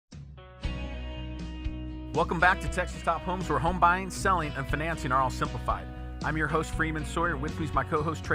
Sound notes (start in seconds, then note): 2.2 voiceover